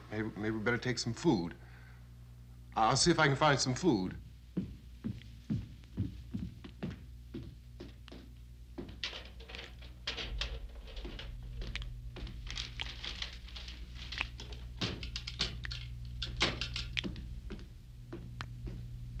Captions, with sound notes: Maybe we better take some food. I'll see if I can find some food. (wood rattling) (liquid dripping)